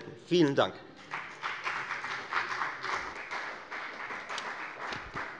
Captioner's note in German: Beifall bei der FDP